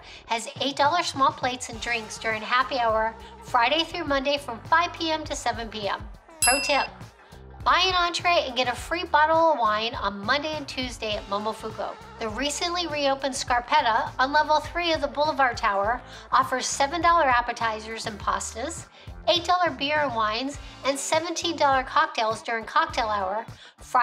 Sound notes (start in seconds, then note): 6.4 bell rings